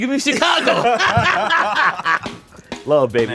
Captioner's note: both laughing